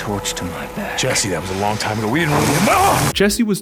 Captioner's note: yells in pain